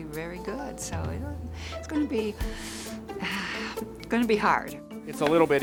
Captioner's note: sighs